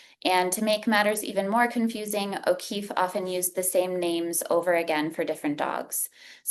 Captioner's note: none